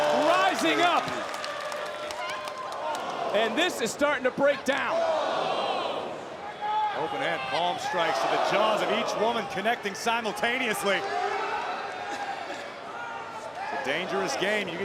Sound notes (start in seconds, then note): 1.8 crowd cheers; 5.3 crowd gasps